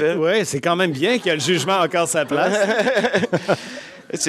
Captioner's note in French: Rires